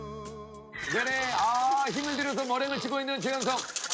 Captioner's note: creak